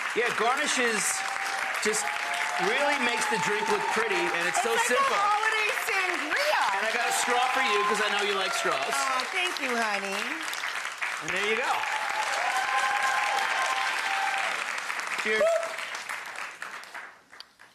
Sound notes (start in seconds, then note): 11.1 audience cheers